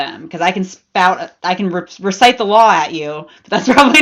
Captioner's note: laughs